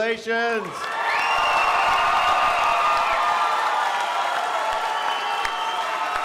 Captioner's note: crowd cheering and applauding